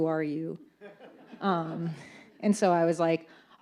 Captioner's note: audience laughs